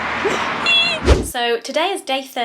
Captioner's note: video swooshing